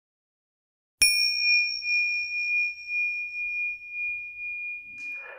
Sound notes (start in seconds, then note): 1.0 dinging sound